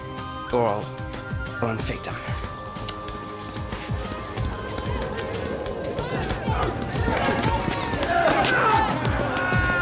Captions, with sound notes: or I'll run victim. (shouting)